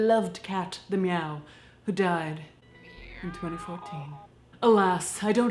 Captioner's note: cat meowing